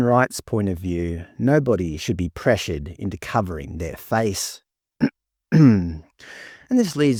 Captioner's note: clears throat